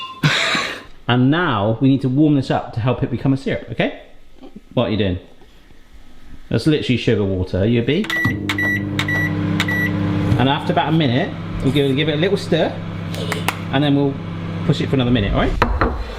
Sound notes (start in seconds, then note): 8.0 microwave beeping; 13.2 clapping